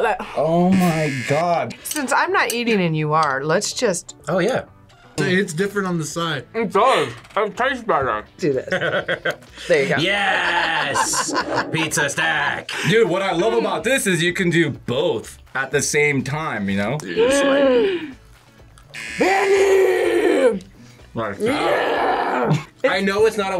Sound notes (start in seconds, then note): 8.6 laughs; 17.1 gasps